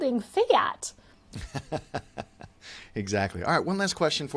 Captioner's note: laughs